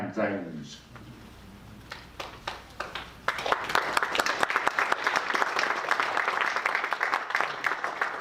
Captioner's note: applause